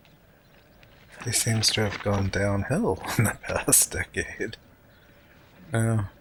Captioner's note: chuckling